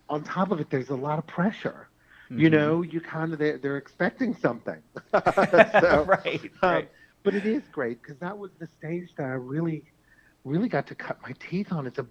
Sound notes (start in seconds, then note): 5.0 laughs